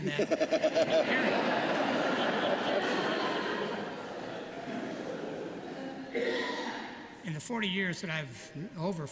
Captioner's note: laughter